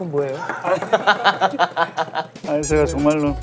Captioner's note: hahahaha